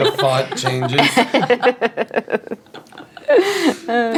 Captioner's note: laughing